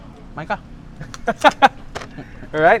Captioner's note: laughs